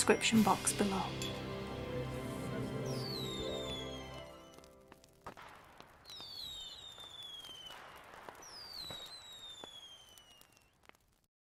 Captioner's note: fireworks shooting and exploding